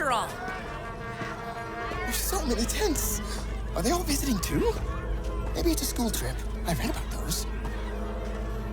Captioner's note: A crowd clamors around the hundreds of tents parked outside the creepy temple